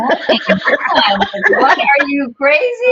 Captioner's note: all laughing heartily